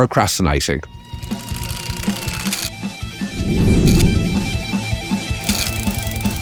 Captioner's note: rock music; graphics crackling